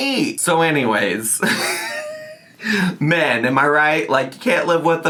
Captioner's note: laughs